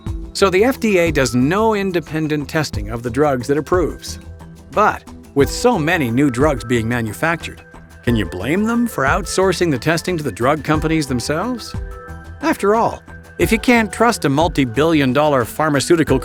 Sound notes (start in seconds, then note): 0.9 voiceover